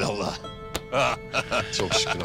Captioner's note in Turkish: Gülme sesi